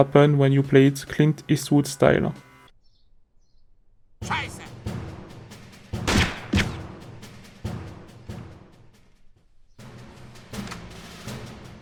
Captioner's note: gunfight